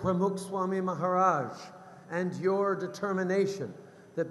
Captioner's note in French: none